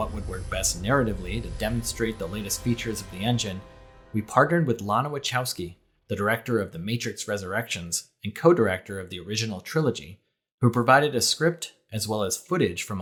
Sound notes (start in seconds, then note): none